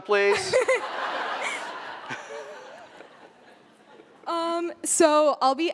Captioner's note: laughter